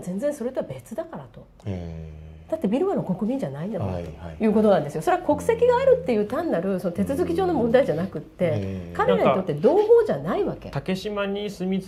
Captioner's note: laughing